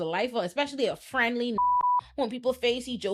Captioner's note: beep